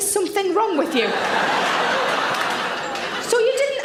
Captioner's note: audience laughs